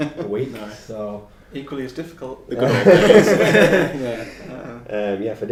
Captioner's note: laughing